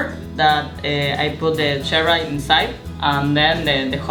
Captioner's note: foreign language